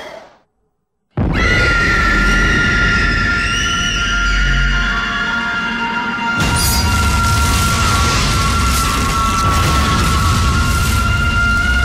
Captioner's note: ghostly scream; screaming